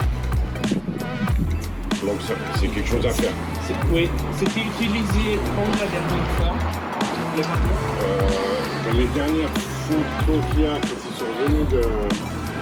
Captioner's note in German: französiches Palaver